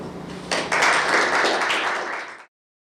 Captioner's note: applause